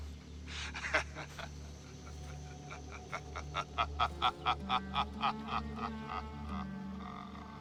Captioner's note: laughing